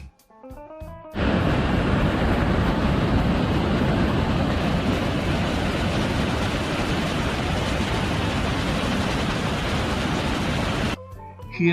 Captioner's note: murmur of water